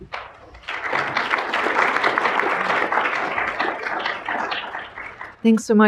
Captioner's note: applause